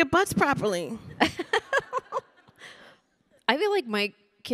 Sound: panelists chuckling

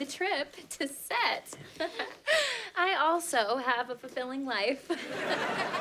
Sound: chuckles

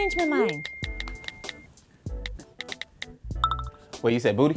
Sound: text sounds

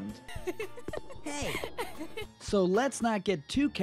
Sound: laugh

